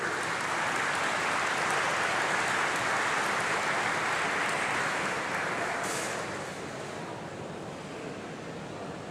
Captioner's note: applause